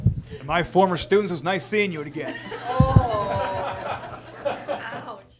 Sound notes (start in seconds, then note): 2.0 laughter from all